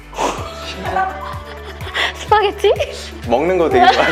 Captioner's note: laughter